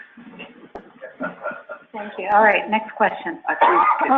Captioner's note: laughing